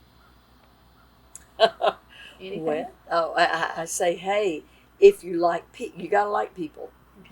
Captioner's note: laughter